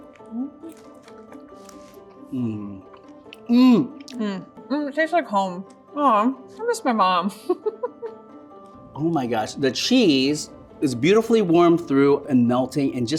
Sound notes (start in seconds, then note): 0.2 light upbeat music continues; 7.4 laughs